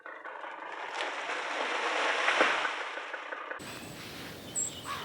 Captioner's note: tree crashing down